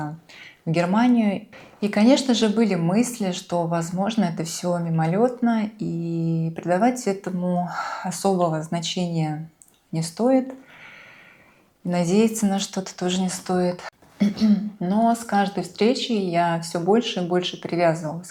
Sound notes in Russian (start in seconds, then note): 14.2 откашливается